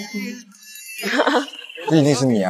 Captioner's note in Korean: 몰래 웃음